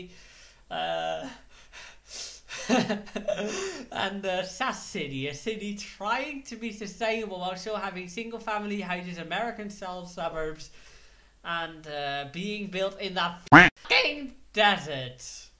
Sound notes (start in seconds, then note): 0.1 giggles; 13.5 quack